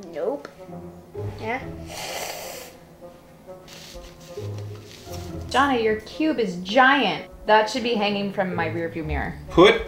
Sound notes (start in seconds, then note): 1.8 sucks in air